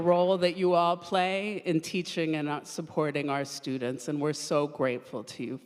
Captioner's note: none